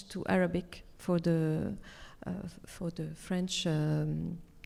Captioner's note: speaks French